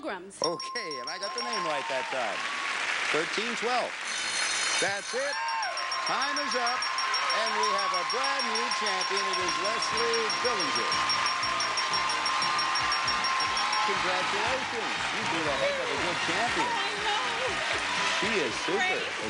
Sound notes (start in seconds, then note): 4.1 bell ringing